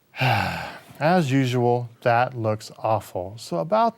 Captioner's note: sighs